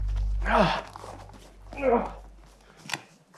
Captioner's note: groans